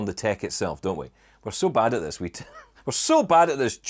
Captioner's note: chuckles